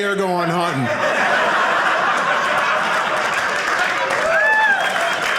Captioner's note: audience laughing; audience applauding